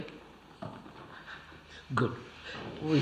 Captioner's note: laughs